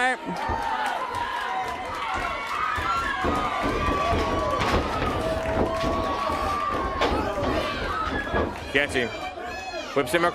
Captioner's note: crowd cheering